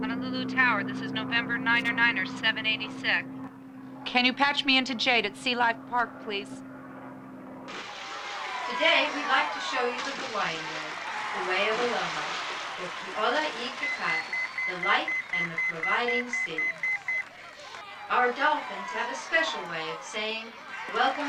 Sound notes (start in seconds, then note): 7.7 people cheering; 13.2 speaking in a foreign language; 17.1 pager beeping